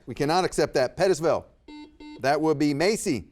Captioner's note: buzzer beeps